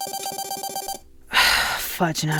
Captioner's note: phone ringing